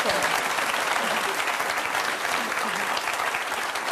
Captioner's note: applause